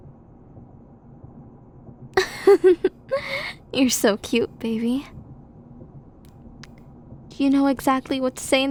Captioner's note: giggle